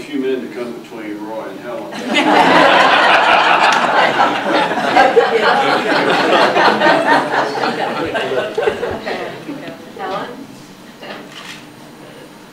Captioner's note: audience laughter